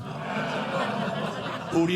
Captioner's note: audience laughing